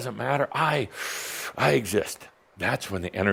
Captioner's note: deep breath